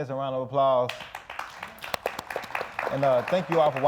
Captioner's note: audience applauding